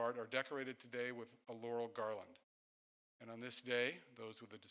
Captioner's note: none